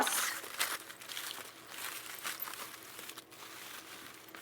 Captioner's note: foil crinkling